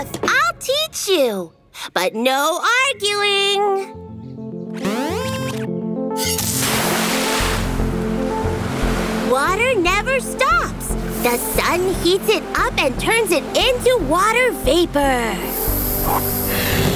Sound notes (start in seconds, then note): 4.9 beeps